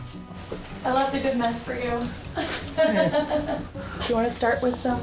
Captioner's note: laughing